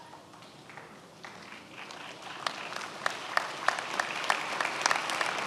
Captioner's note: many applauding